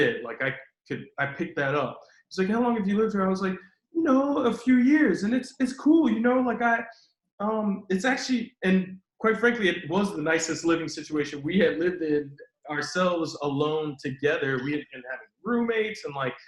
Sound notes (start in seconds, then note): none